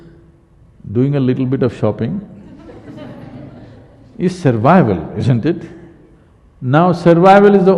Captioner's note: laughter